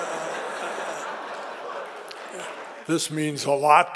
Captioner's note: audience laughing